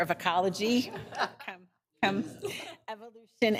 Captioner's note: people laughing